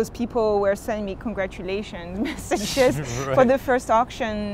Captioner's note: laughs